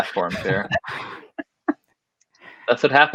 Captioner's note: all laughing